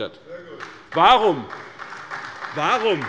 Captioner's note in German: Beifall bei der SPD